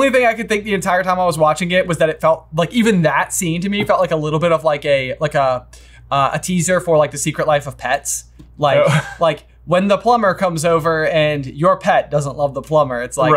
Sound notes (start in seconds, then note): 8.8 laughs